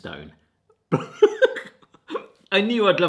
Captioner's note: laughing